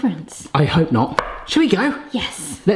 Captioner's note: hand knocking